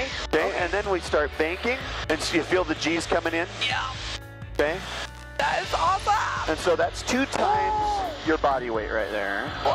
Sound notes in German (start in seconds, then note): 3.9 Strained